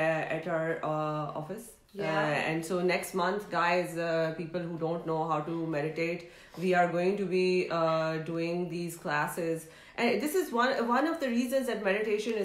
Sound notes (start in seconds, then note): none